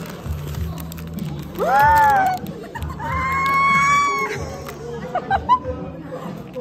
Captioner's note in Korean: 꺄야아아앙